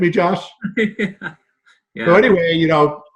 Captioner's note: laughing